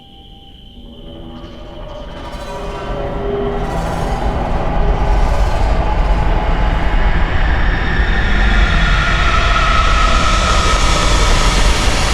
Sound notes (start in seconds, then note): 0.7 metal screeching